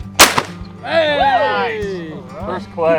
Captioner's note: cheering